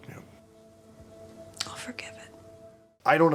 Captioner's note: whispers